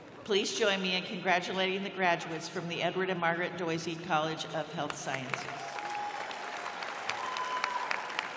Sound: cheers and applause

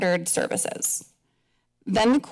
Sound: pause

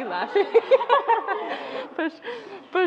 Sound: laughing

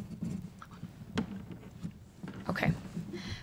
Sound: none

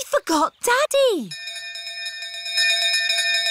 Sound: bell continues dinging

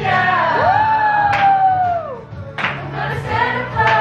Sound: clapping

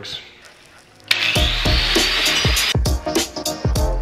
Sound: buzzing; up-tempo music

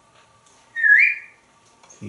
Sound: whistles

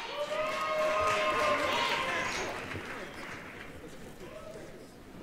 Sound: applause, cheering

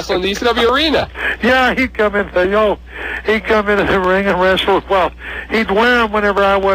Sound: laughs

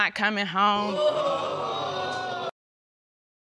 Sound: audience exclaiming

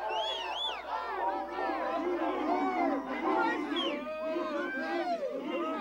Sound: exclamations

